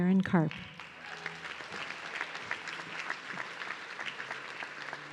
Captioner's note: audience clapping